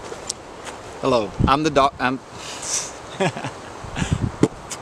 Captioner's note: laughs and starts beatboxing